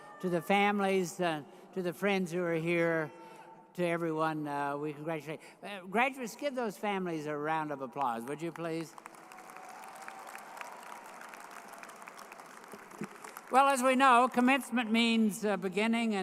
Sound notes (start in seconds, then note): 10.0 graduates applauding